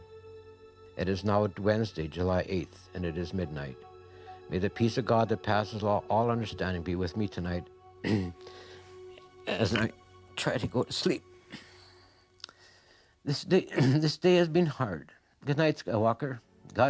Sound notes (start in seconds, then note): 11.2 cries